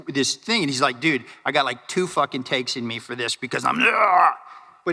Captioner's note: grunts